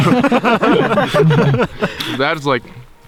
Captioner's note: all laugh